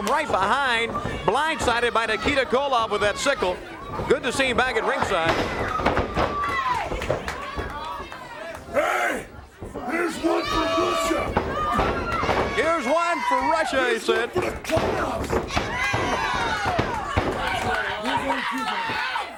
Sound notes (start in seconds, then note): 3.6 crowd chatter